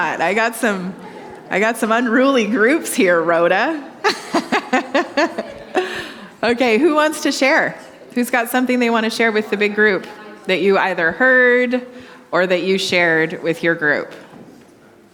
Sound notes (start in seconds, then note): 3.8 laughing